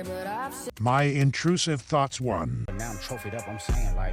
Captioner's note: horrible ai voice